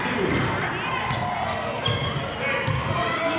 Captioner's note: yelling